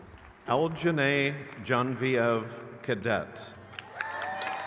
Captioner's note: crowd cheers